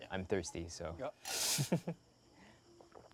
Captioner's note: chuckles